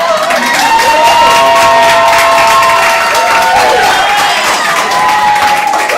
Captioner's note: audience cheering